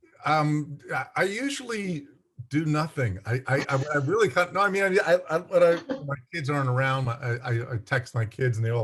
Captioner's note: laughs